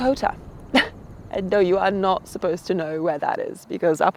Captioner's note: scoffs